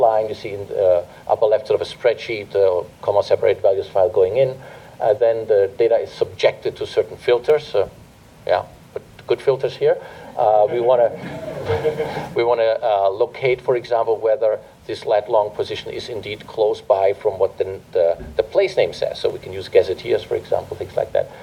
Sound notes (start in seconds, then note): 11.0 laughter